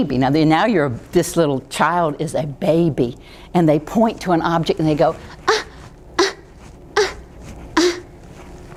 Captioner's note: make baby noises